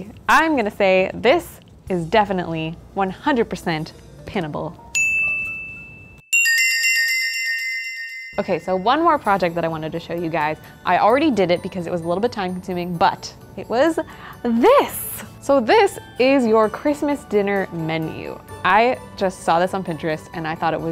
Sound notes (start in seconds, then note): 6.4 bells tinkling